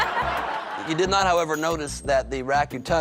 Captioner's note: laughter